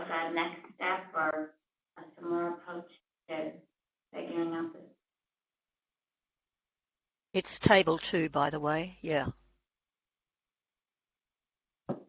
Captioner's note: pause